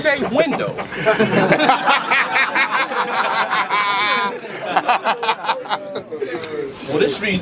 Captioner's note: crowd Reaction